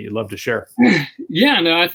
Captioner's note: clears throat